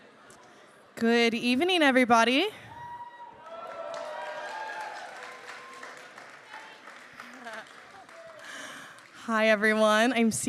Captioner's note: applause